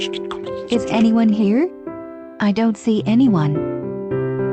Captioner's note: friends Whispering; friends Whispering